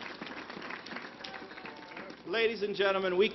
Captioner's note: applause